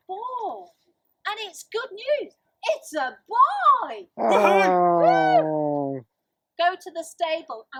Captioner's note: A Cheer is heard